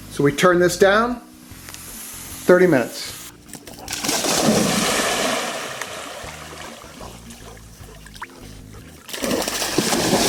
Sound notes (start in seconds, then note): 3.5 water splashing